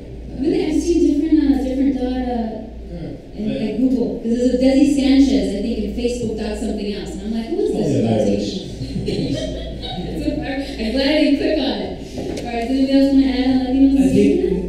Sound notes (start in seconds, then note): 8.6 audience chuckles